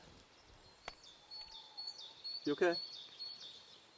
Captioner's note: birds chirping